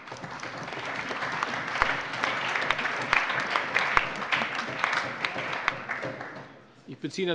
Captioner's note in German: Allgemeiner Beifall